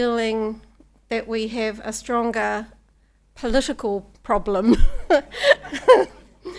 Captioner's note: laughs